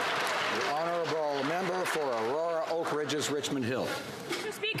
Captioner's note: some Applause